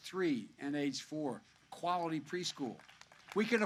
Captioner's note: applause